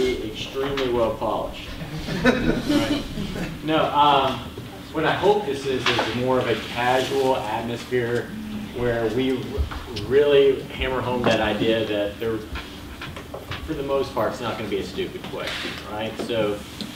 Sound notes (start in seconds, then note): 1.7 laughter